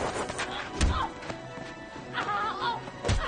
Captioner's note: grunting